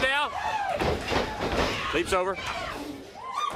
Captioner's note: crowd cheering